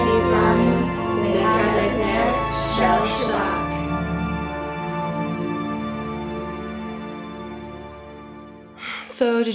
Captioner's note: in Hebrew